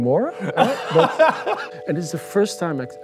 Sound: laughs

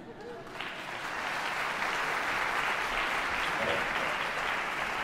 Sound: audience applause

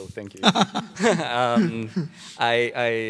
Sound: laughing

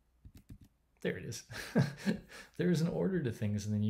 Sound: laughing

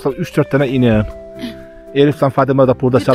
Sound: sighing sound

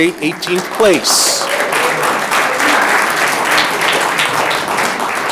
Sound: audience clapping

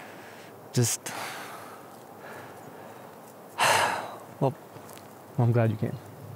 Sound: sighs

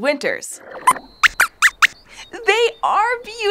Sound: squeaks squeaks

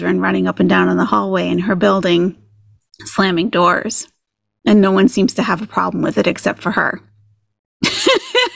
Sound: laughing

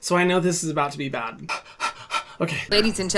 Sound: pants

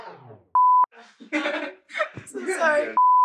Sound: beep sound; laughing; beep sound

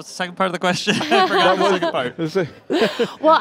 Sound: laughter

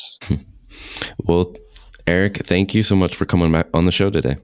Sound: laughs

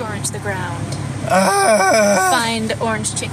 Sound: makes a distressed noise

